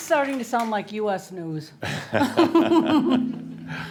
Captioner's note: some applause; they chuckle